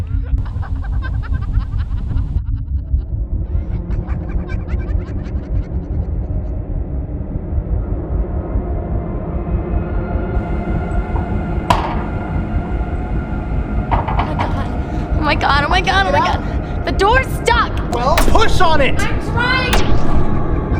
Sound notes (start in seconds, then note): 0.0 disembodied laughing; 9.4 tense, dramatic music; 13.8 rattling